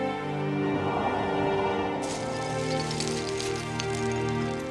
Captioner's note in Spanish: viento que sopla; susurro